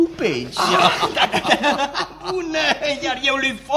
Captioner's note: laughs